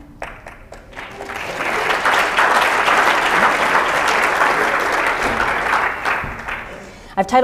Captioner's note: applause